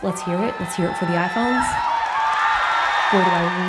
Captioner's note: cheering